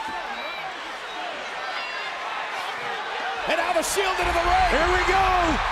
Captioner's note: applause